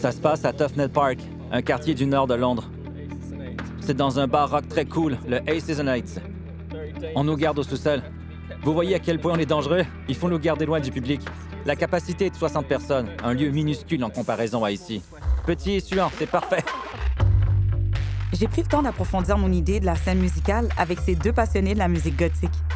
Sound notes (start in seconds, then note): 16.3 laughter